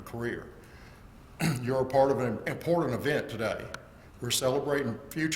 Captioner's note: cough